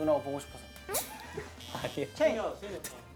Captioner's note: hah